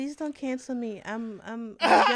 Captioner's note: laughter